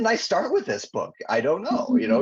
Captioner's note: chuckling